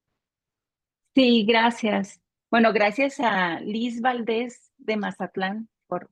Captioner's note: speaking Spanish